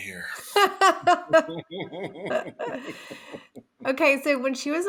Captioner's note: laughing